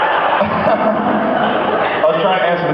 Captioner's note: laughs